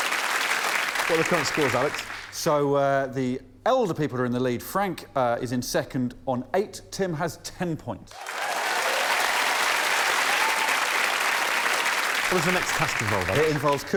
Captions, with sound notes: Brad and Jeff are our winners! [applause] What are the current scores, Alex? So, uh, the elder people are in the lead. Frank is in second on eight, Tim has ten points.